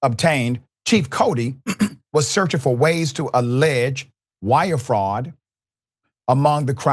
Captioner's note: cough